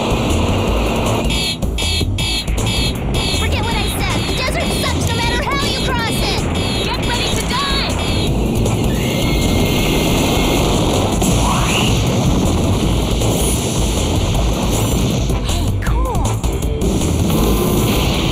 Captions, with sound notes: [vehicle whirring] [warning alarm] Forget what I said. The desert sucks no matter how you cross it! Get ready to dive! Hey, cool.